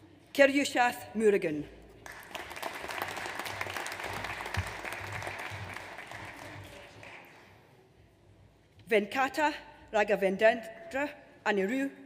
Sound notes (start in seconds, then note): 2.0 audience applauds